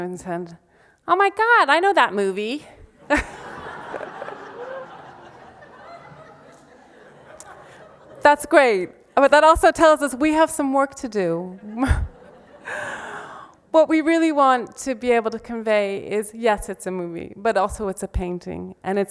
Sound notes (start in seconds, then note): 3.0 laughs; 3.0 audience laughs; 11.6 laughs